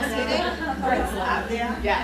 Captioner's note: laughter